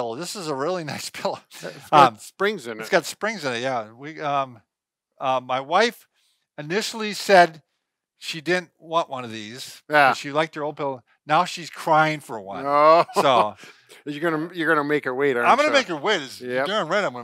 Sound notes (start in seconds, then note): 12.5 chuckles